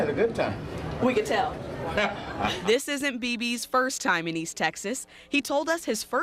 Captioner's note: laughs